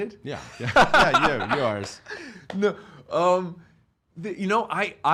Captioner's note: laughing